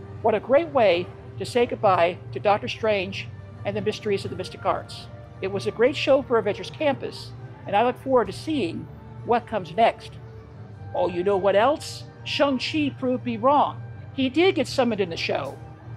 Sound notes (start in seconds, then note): none